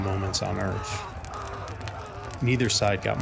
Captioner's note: soldiers screaming